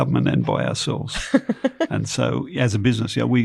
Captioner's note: laughs